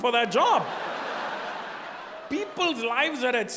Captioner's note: audience laughing